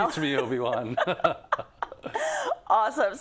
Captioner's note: laugh